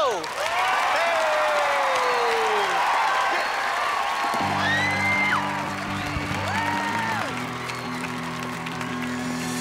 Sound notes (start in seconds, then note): 0.0 cheering; 5.0 cheering, music playing